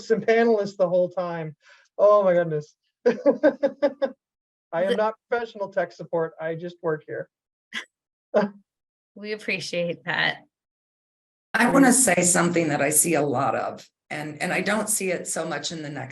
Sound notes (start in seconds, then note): 3.0 laughing